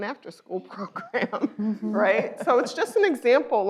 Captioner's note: laughs